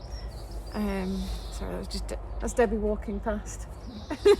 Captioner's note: laughs